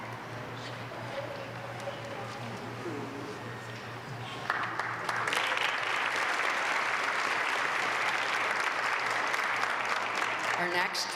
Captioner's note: applause